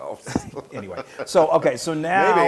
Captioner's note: laugh